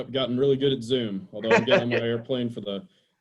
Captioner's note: laughs